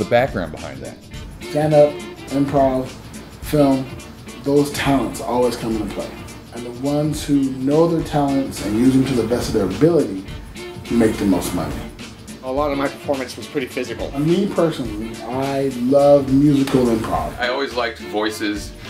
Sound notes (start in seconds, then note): none